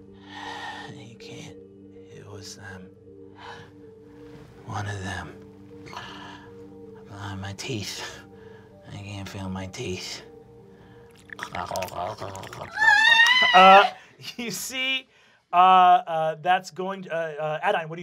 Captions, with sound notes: You can't, it was one of them. My teeth, I can't feel my teeth. (gurgling) (screams) Adaine, what do you do?